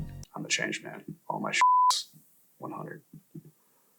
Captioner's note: beep